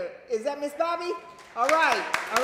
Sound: applause

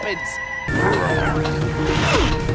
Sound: grunting

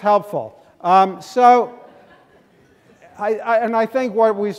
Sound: laughing

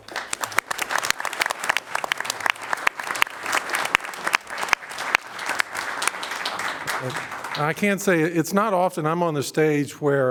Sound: applause

